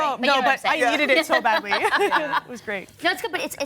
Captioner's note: laughing